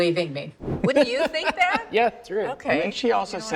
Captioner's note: laughs